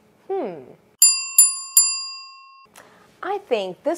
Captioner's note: bell rings